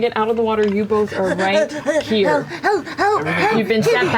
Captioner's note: pants